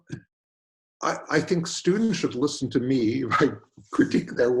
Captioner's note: chuckles